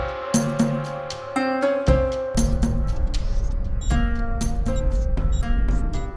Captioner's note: computer beeps, music fade-out